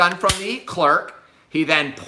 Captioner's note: gun clicks